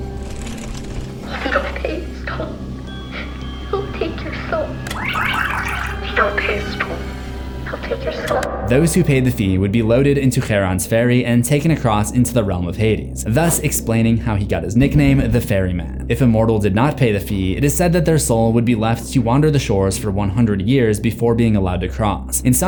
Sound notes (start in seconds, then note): 3.9 tape rewind